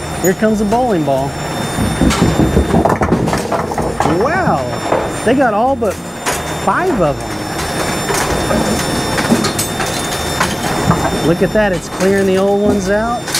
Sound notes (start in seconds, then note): 1.8 bowling ball thudding; 1.8 pins clattering; 7.6 machine whirring; 7.6 pins clattering